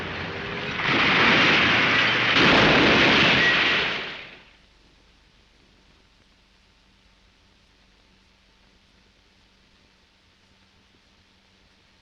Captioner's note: crashing